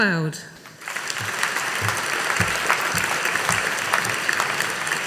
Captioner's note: audience applauding